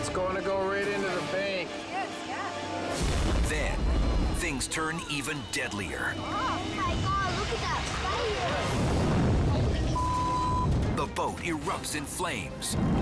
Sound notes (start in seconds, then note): 8.5 fire roaring; 9.9 beep